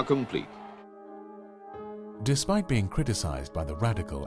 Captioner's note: voiceover